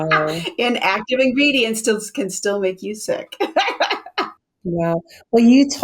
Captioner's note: laughs